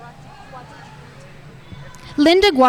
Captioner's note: speaking faintly